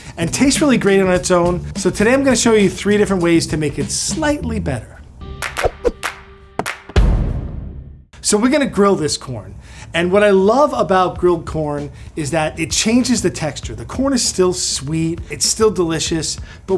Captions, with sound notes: and tastes really great on its own. So today, I'm gonna show you three different ways to make it slightly better. [bright music] [hands clapping] So, we're gonna grill this corn and what I love about grilled corn is that it changes the texture. The corn is still sweet, it's still delicious.